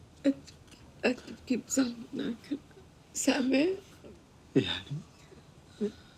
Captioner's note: speaking in foreign language